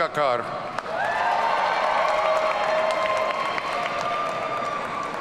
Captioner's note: audience cheering